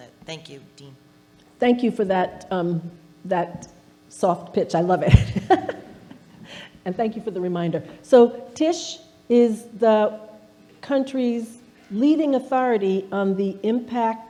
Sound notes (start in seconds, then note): 5.9 laughing